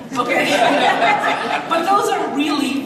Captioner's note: audience laughs